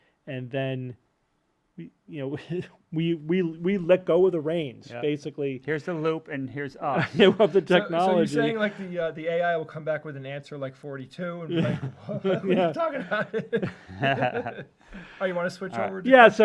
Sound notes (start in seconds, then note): 13.4 laughter